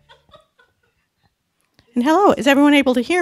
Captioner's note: chuckling